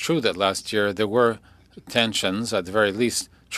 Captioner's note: speaking French